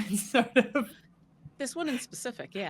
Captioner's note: laughing